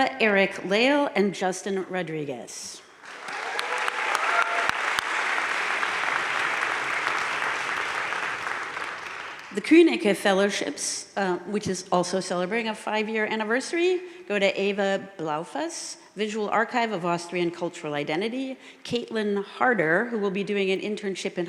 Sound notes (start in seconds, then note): 3.0 audience cheering and applauding